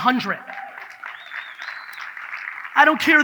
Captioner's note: audience cheers